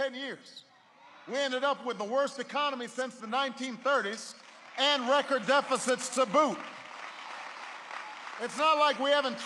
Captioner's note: applause